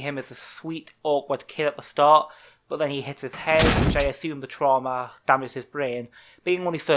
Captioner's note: loud bang